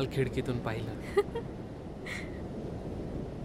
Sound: Sneha laughs

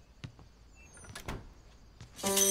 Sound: door closes

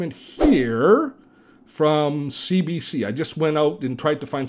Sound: air whooshing

